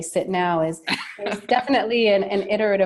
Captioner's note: laughing